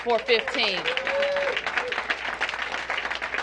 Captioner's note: applause